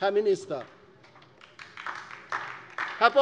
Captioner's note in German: Beifall DIE LINKE